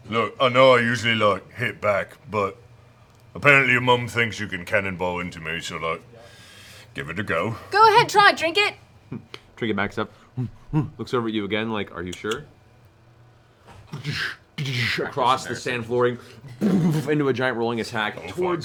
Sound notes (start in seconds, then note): 10.7 bear growling